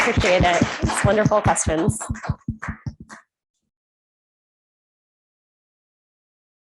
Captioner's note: audience applauding